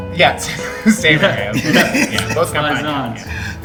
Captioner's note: all laughing